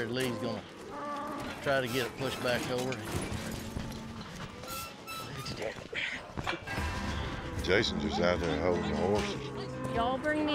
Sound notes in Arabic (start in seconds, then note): 4.3 صرير البوابة